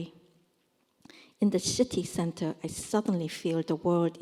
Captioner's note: korean